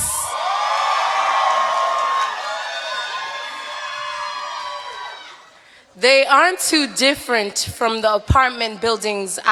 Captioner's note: cheering